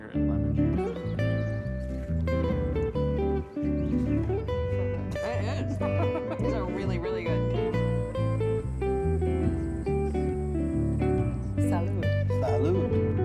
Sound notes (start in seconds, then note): 0.1 relaxed instrumental; 5.6 chuckling; 7.2 relaxed instrumental; 12.0 relaxed instrumental